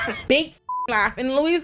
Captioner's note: beep